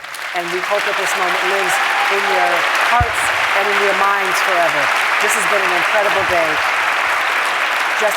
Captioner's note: applause